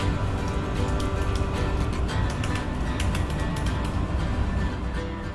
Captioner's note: typing